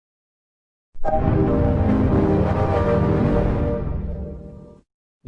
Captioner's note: 3D Shadow Windows XP Startup Sound